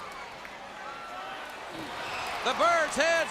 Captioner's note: crowd cheering